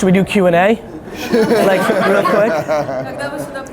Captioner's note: laughter